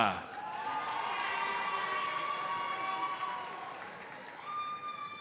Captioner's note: audience cheers and applauds